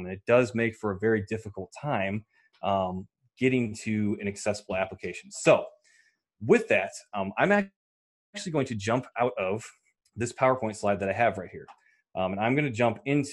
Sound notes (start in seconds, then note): none